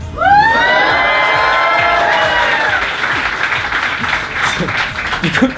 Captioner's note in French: applaudissements